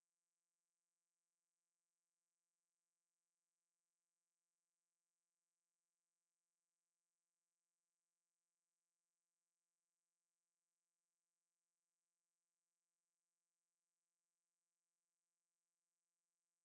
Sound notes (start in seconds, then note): none